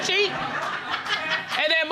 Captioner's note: all laughing